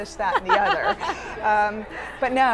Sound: laughs

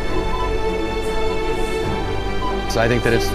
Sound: dramatic music; metal detector beeping

